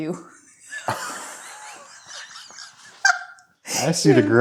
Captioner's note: both laughing